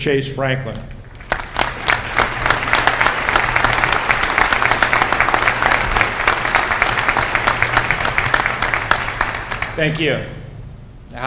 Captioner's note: applause